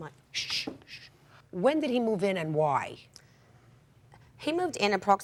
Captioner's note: shushes